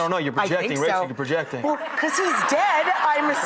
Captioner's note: audience laughing